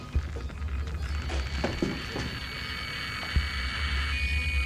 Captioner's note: device crackling